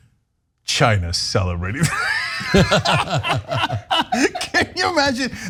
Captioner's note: laugh